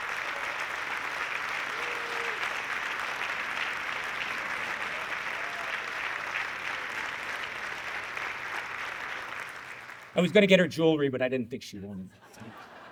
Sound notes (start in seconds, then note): 4.4 audience clapping; 12.1 audience laughing